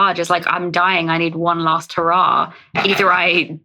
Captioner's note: laughs